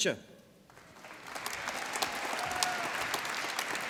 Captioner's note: applause